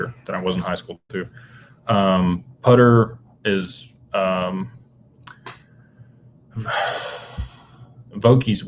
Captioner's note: sighs